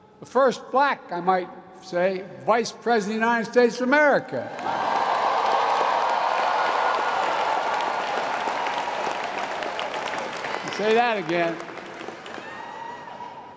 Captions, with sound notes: The first Black -- I might say -- Vice President of the United States of America. (Applause.) You can say that again.